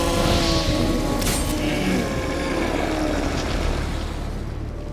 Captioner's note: groan; howls